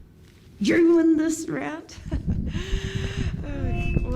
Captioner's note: laughs